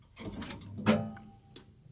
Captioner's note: clunk